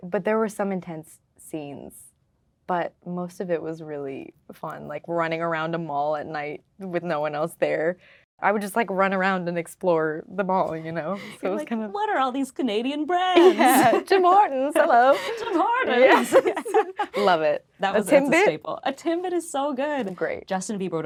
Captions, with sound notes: - But there were some intense scenes. But most of it was really fun, like running around a mall at night, with no one else there. I would just like run around and explore the mall, ya know, so it was kind of- - You're like, "What are all these Canadian brands?" - Yeah, Tim Hortons? Hello. - Tim Hortons? - Yes. (laughing) - Love it. That's a staple. - A Timbit? - A Timbit is so good. - They're great.